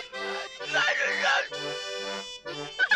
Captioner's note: onion sobbing; happy music